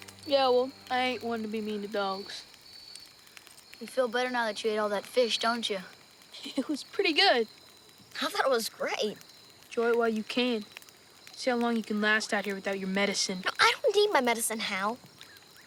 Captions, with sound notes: - Yeah, well, I ain't one to be mean to dogs. - You feel better now that you ate all that fish, don't ya? - (chuckles) It was pretty good. - I thought it was great. Enjoy it while you can. See how long you can last out here without your medicine. - I don't need my medicine Hal.